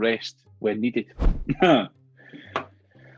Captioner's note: chuckles